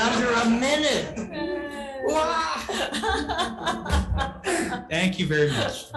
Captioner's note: attendees cheering and laughing